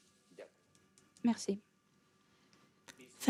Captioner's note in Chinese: 沉默中